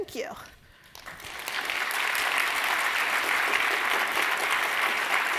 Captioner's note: audience applauding